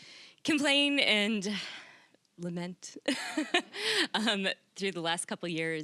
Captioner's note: laughing